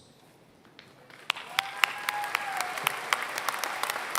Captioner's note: applause